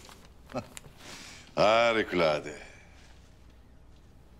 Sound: laughter

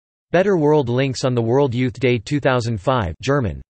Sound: German

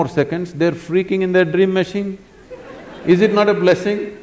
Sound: laughter

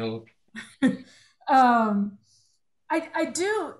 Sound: chuckling

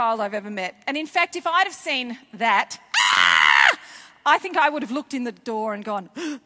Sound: screams

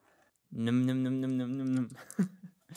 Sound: chuckles

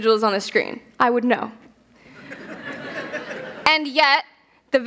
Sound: laughter

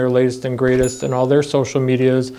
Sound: bell dings

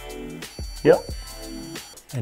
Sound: beep

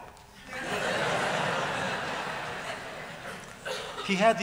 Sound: laughter

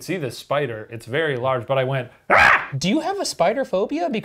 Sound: screams

